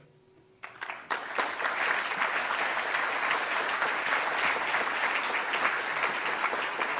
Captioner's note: applause